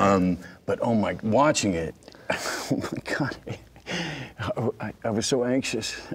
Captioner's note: laughing